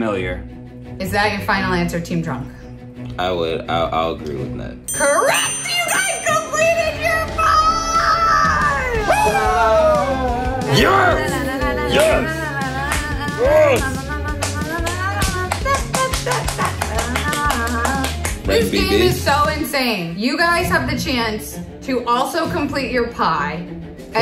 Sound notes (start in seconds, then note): 7.4 cheering; 14.3 clapping